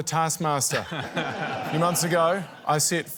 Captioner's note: laughter